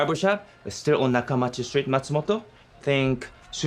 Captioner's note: speaking in foreign language